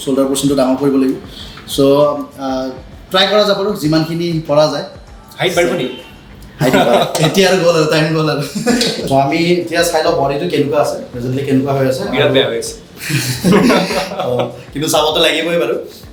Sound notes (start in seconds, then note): 6.5 chuckles; 13.0 laughs